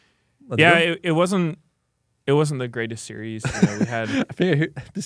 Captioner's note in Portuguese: risos